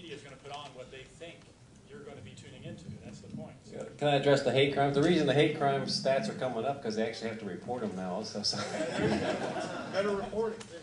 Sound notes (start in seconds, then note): 8.5 laughter